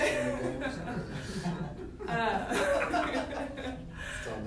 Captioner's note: laughter